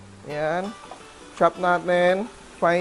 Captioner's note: sizzle